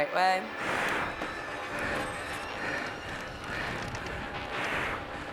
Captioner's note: breathes heavily